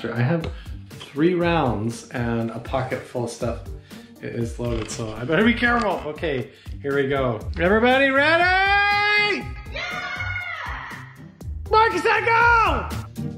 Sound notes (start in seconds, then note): 9.6 distant shouting